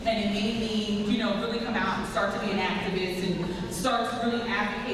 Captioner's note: none